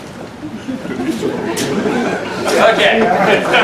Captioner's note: laughter